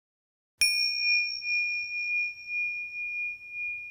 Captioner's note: bell chiming